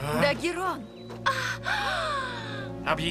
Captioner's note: gasps